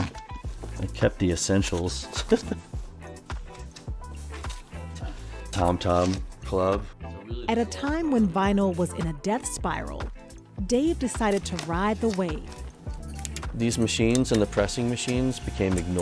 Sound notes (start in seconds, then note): 2.0 laughs